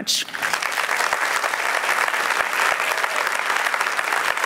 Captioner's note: applause